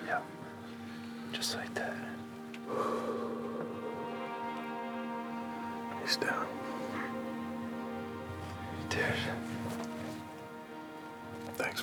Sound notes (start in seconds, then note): 2.6 exhales; 6.5 whispering